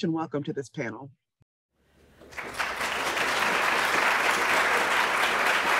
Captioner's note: applause